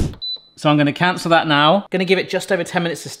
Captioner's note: button beeps